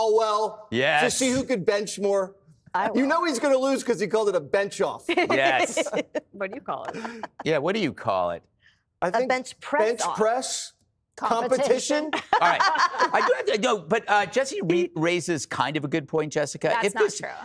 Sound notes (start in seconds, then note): 3.3 laughter; 12.0 laughter